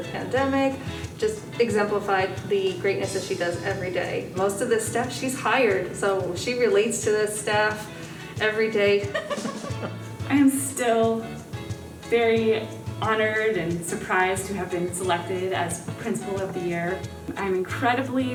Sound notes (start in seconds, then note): 9.0 laughing